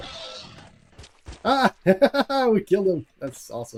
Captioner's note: laughing